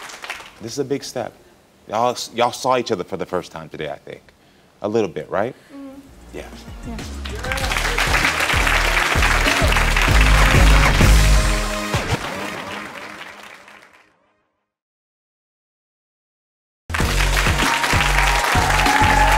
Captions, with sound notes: - This is a big step. Y'all saw each other for the first time today, I think, a little bit, right? Yeah. - Yeah. (audience applauds) (upbeat music)